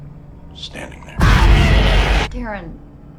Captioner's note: Entity screeches; scary dramatic music